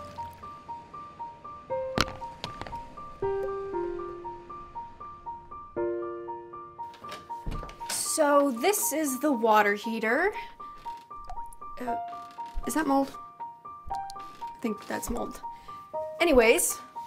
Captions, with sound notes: (clacking) - So this is the water heater. Is that mold? I think that's mold. Anyways.